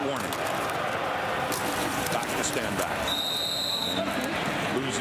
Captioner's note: crowd Noise